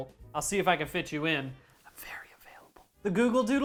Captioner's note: whispered